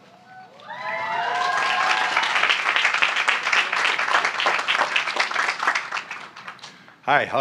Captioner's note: applause